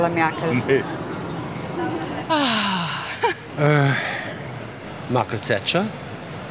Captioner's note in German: Lisa lacht